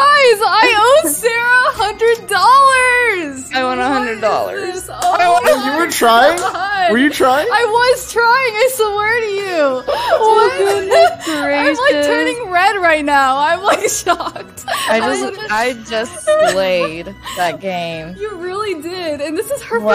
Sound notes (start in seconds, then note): 6.2 clapping